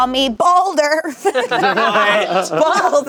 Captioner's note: everyone laughing